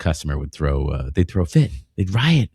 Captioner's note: uh